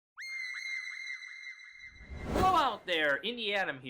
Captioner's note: high-pitch screaming